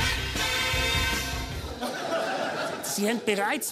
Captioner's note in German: Lachen